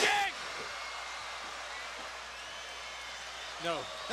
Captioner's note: crowd chatter